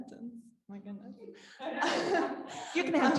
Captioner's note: laughing